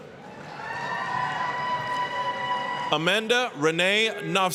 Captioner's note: applause, cheering